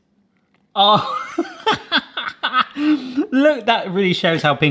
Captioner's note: laughs